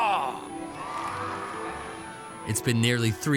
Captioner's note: students cheering